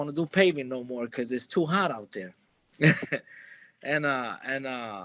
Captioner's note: chuckles